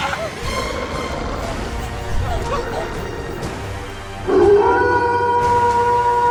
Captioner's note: Eric growling; both screaming; Eric howling